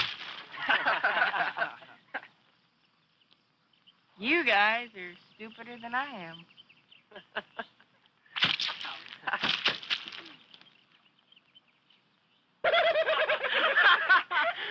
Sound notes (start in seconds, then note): 0.5 laughing; 7.0 chuckling; 8.3 splattering; 12.6 laughing